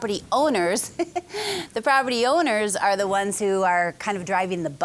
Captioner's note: laughing